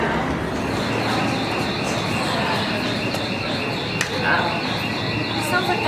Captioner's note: exit gate alarm sound